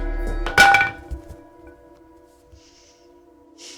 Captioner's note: bat clanking